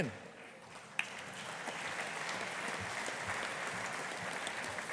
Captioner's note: audience applauding